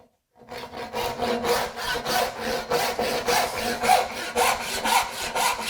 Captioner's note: saw on wood rhythmically rasping